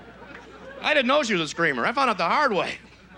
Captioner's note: audience laughs; normal voice